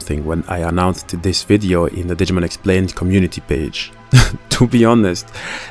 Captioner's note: laugh